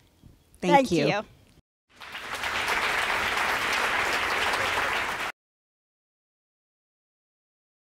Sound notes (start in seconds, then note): 1.9 applause